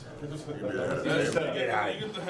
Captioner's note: men chatting indistinctly